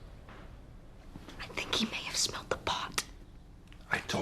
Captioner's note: WHlSPERlNG